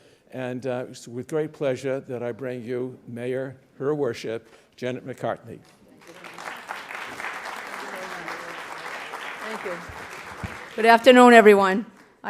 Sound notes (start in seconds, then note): 6.0 audience applause